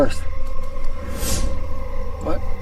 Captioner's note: scene swooshing